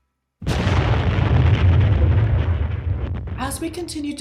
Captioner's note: explosion